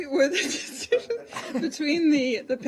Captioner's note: laughter